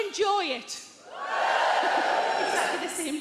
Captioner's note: crowd whoos